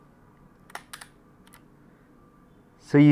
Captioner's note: camera shutter clicks